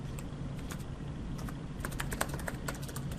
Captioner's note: typing